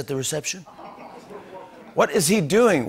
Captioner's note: laughter